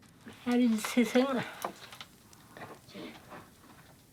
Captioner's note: foreign spoken audio